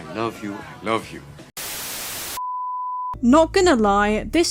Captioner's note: static